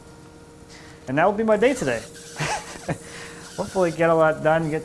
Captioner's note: laughs